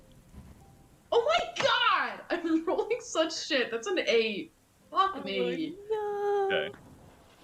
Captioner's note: frustrated Noises; more Frustrated Noises